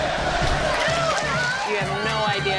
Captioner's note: fans chanting